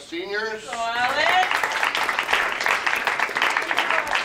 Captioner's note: audience claps